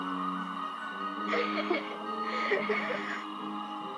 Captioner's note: giggling